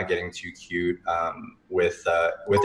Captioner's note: ringing sound